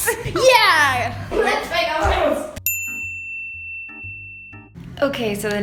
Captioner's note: bell dings